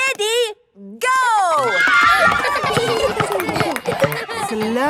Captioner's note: kids screaming; laughter